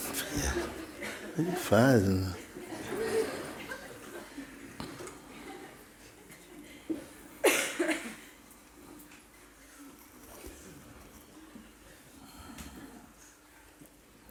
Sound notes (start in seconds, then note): 4.5 silence